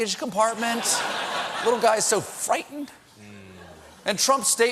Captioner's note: laughter